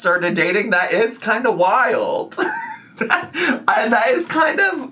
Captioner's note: laughing